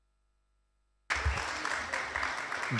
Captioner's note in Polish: oklaski